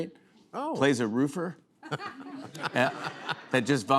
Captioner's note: laughter